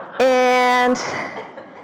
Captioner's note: audience laughter